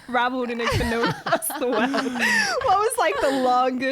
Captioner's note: laughing together